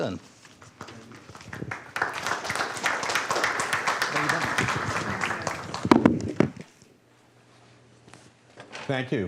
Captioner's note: applause